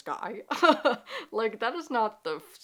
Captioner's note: laughing